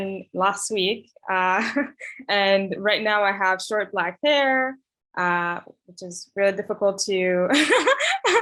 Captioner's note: laughs